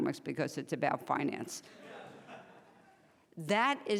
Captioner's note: laughing